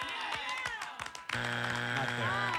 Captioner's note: buzzer